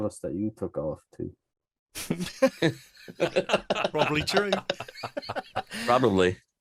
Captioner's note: laughs